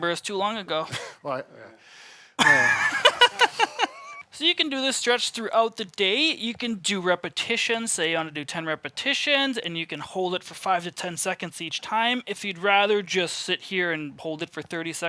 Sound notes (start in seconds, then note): 2.4 laughs